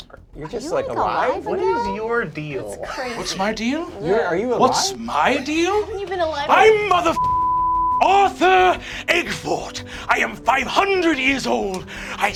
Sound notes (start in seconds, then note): 7.0 beeping